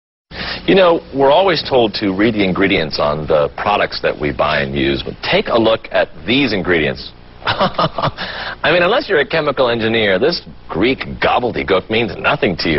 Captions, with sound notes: You know we are always told to read the ingredients on the products we buy and use. Well take a look at these ingredients. (laugh) I mean unless you're a chemical engineer this greek gobblygook means nothing to you.